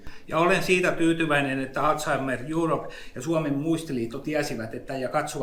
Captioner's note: speaks in Finnish language